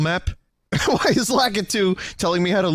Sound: laughing

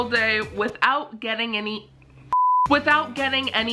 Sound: screen beeps

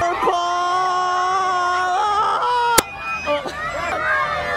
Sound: yells

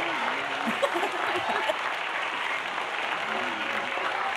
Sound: laughter

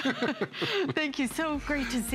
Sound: laughter

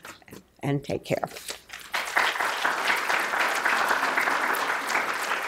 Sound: audience applause

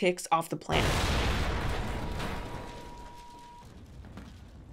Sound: explosion thunders

